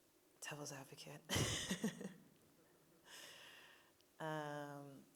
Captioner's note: laughing